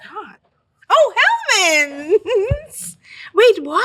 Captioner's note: chuckles